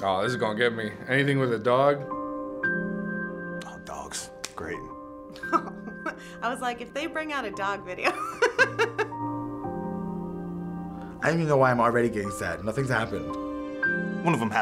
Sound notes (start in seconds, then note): 8.1 laughs